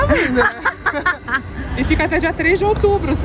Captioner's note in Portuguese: risos